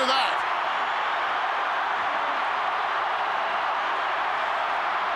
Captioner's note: crowd cheering